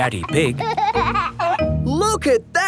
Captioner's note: giggling